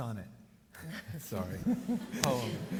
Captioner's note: audience laughs; laughs